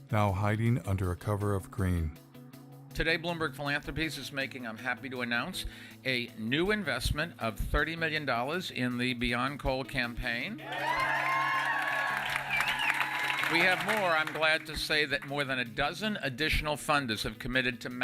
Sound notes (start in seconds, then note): 10.6 kalabalık tezahürat ve alkışlar